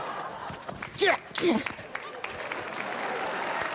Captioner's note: grunts; cheers, applause